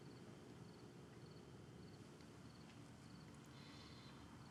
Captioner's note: insects chirping